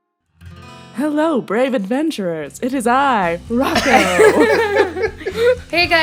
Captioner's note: laughter